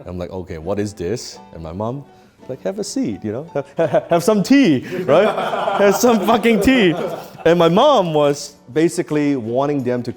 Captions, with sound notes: And I'm like, okay, what is this? And my mom like have a seat. Have some tea, right? (men laughing) Have some fucking tea. And my mom was, basically, wanting them